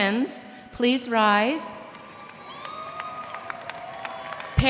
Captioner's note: cheers and applause